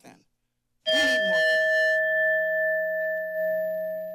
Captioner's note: bell rings